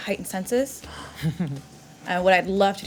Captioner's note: giggling